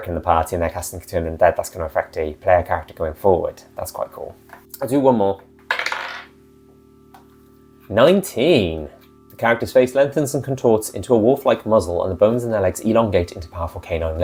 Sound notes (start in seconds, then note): 5.6 die roll